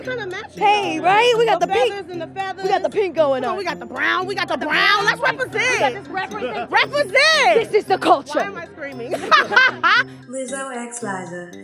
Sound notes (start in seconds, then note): 8.8 laughs